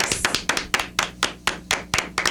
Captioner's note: clapping